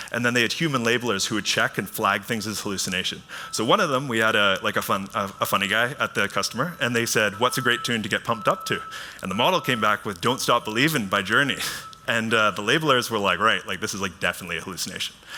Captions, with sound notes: Then they had human labelers who would check and flag things as hallucination. One of them, we had a funny guy at the customer and they said, "What's a great tune to get pumped up to?" The model came back with Don't Stop Believin' by Journey. [chuckles] The labelers were like, "Right, this is definitely a hallucination,"